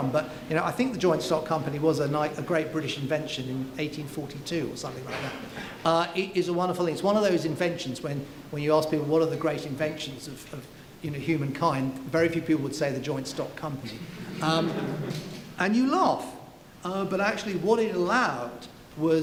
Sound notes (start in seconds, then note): 13.9 laughing